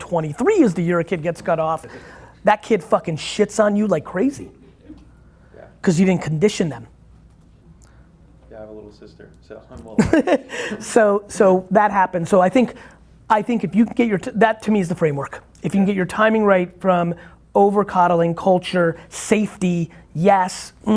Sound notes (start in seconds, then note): 9.9 laughing